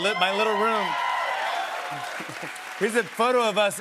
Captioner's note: cheers and applause